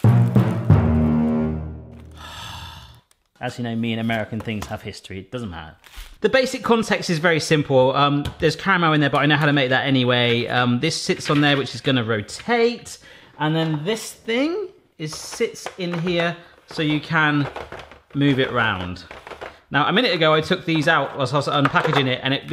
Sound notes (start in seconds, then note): 0.0 ominous music; 2.0 sighing